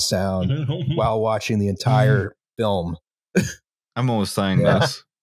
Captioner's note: chuckles